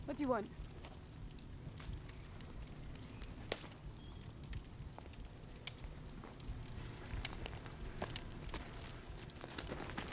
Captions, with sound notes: - What do you want? (loud slap)